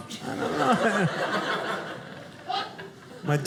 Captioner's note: audience laughing